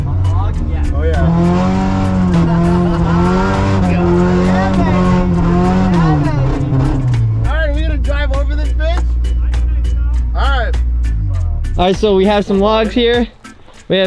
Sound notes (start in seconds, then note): 1.8 engine revving; 2.3 laughing